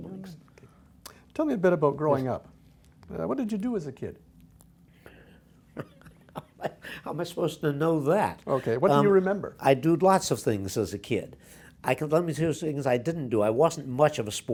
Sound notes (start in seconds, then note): 5.7 laughs